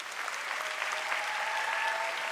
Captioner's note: applause